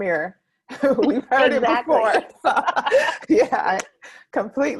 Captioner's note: laughs